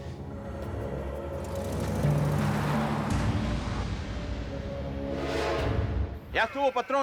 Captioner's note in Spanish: ruido del auto en marcha